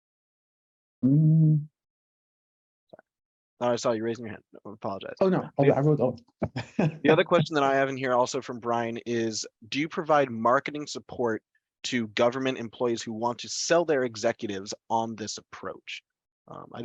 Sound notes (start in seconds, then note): 1.0 humming pensively; 6.4 chuckling